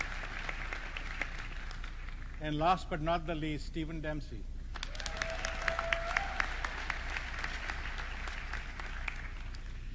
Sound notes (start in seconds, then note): 4.7 audience clapping